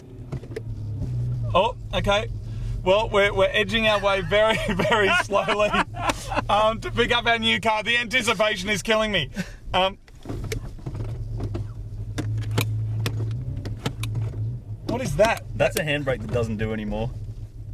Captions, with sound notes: Oh, okay. Well, we're edging our way, very, very slowly, to pick up our new car, the anticipation is killing me. [engine starting and revving] [handbrake clicking] What is that? That's a handbrake that doesn't do anymore.